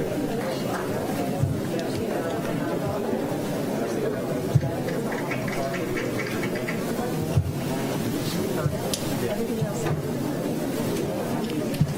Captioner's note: applause